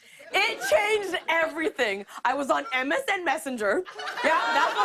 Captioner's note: laughter